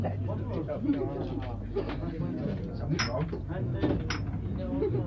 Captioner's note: glasses clink